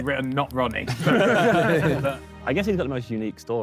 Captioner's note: Sidemen laugh